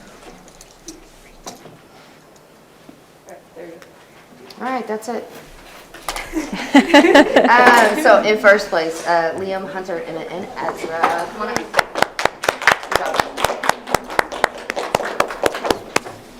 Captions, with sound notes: - All right that's it. So in first place, Liam, Hunter, Emmet and Ezra, come on. (audience applauding)